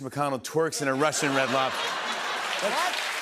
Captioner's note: laughter